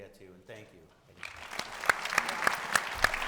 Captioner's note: audience applauding